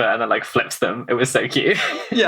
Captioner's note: laughs